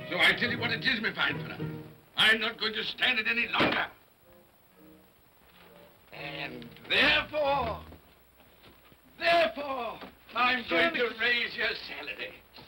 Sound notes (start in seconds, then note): 4.6 thumps on desk